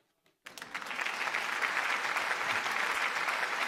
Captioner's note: applause